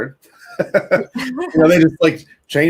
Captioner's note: laughing